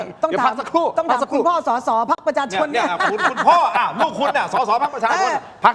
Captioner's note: laughter